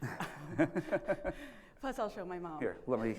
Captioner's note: laugh